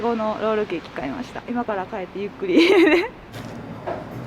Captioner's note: laughter